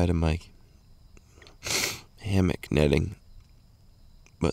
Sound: sniffs

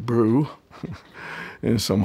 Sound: chuckles

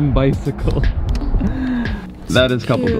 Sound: chuckles

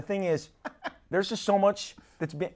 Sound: laughs

